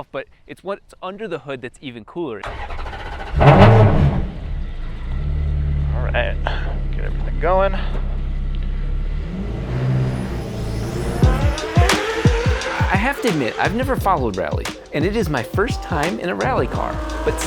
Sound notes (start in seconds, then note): 2.3 car engine starting; 10.4 upbeat music